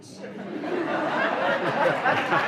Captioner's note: laughter